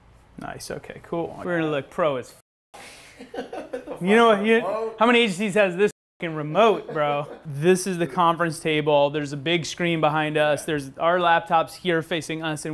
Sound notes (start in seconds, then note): 3.2 laughs